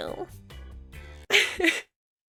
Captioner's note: laughs